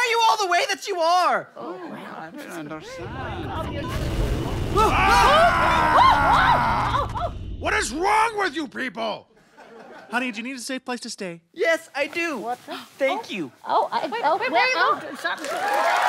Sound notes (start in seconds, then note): 3.0 thunder; 5.0 roar; 14.2 mumbled protestations; 15.2 audience applauding